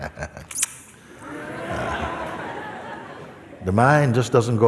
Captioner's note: laughter